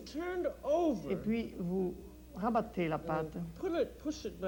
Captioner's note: speaks French